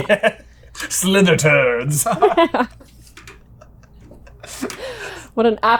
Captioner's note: laughter